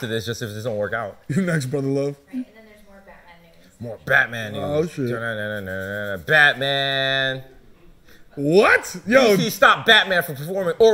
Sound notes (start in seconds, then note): 5.8 humming